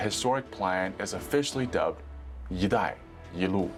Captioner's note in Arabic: يتحدث بلغة أجنبية